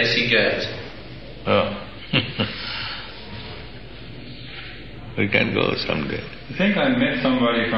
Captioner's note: chuckles